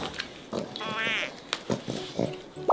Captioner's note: smacks him lips